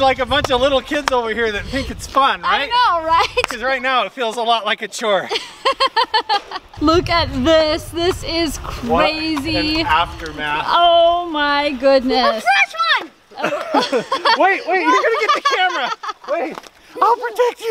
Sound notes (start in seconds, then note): 5.2 laughing